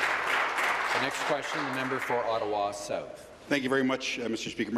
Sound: applause

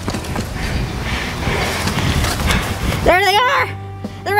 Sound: breathing heavy

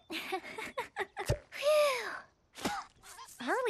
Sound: laughing nervously

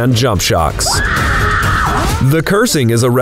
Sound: woman screaming

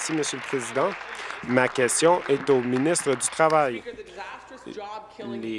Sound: applause

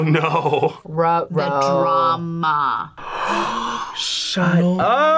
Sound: both gasp

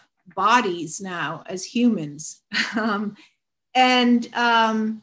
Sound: chuckles

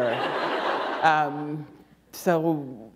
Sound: laughter

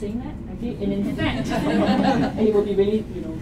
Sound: laughter

